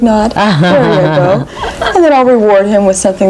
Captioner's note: laughs